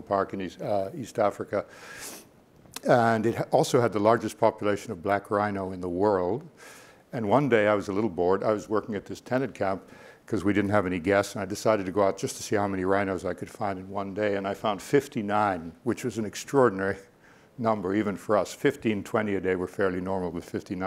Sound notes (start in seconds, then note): none